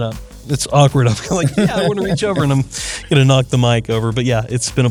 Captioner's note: laugh